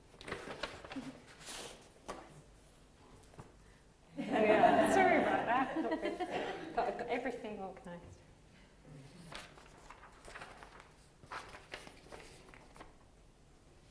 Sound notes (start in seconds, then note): 4.1 laughter